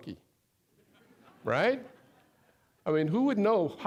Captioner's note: audience laughing